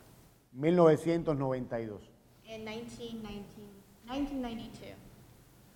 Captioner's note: speaking in Spanish